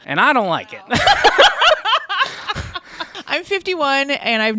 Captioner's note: laugh